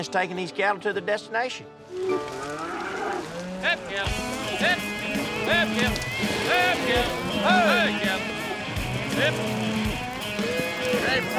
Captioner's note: calling cattle